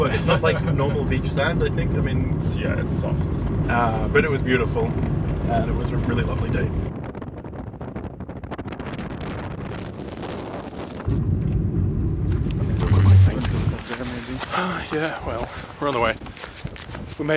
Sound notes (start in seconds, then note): 7.2 wind blowing